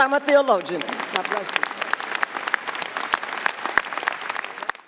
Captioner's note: audience applauding